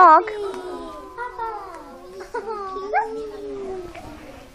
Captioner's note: students aww's